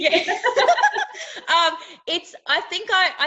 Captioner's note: laughing